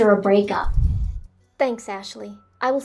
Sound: swoosh

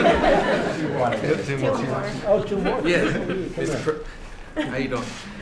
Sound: laughter

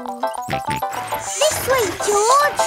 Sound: george snorts

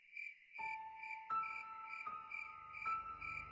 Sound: none

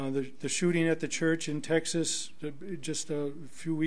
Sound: none

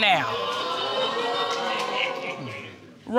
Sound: audience exclaiming

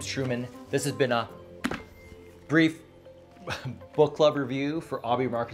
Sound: laughs

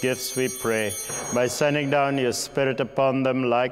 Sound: altar bell ringing

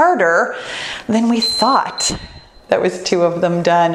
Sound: timer beeps

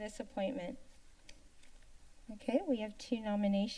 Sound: paper rustling sound

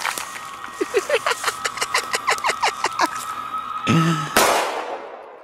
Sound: Fabian's mad laugh

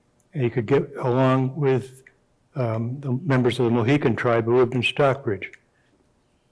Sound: none

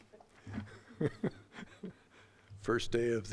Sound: chuckling

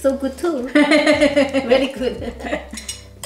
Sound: laughs

